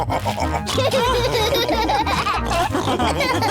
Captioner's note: laugh and snorts; all laughing